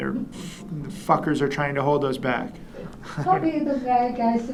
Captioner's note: chuckles